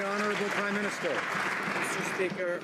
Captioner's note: some Applause